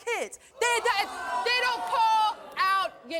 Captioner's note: audience groaning